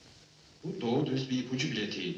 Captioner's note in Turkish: televi̇zyon yayinindan gelen ses